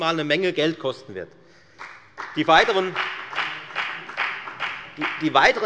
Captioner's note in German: Beifall bei der FDP